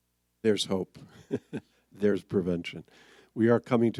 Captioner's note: laughs